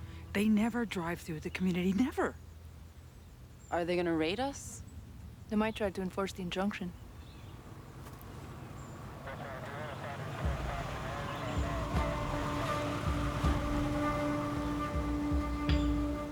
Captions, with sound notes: - They never drive through the community, never. - Are they gonna raid us? - They might try to enforce the injunction. (police radio chattering) (suspenseful music)